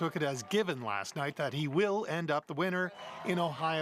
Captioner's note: cheering